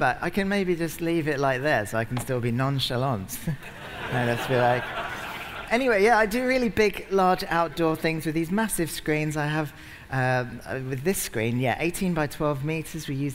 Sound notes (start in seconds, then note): 3.4 laughter